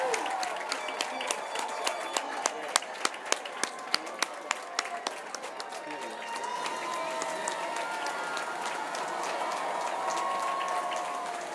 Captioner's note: cheers and applause